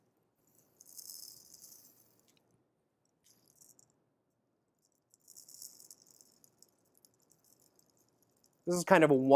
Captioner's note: pouring sound